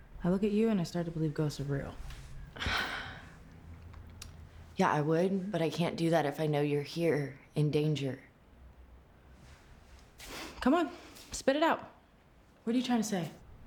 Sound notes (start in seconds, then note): 2.5 sighs